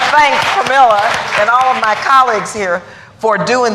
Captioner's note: applause